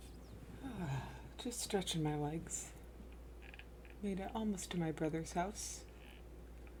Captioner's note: sigh